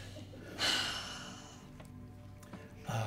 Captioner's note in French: soupire